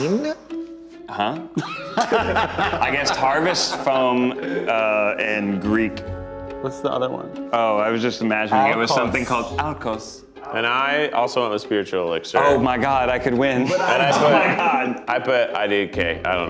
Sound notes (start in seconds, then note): 1.5 laughing